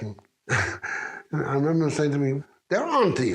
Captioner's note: chuckles